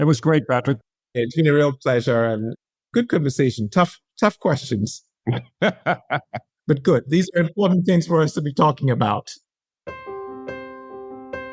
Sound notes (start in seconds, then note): 5.2 laugh